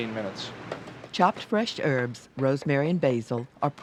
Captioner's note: voiceover